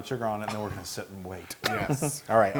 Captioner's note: laugh